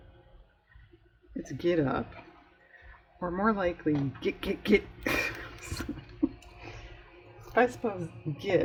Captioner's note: laughs